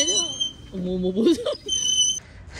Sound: laughs

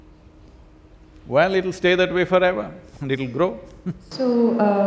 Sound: laughs

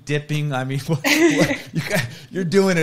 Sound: chuckles

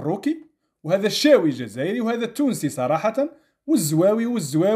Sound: in Arabic

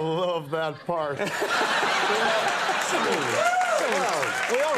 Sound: crowd laughs

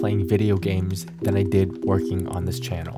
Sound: keyboard clacking

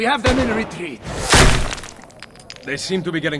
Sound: gunshot; bullet hits wall

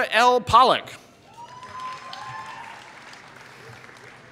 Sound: applause

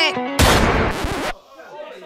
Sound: scratching record

